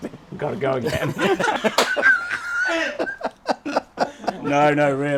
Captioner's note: everyone laughing